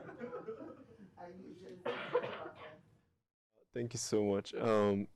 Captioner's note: background coughing